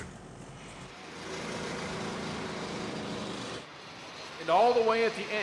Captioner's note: engines rumbling